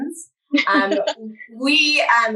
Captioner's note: chuckles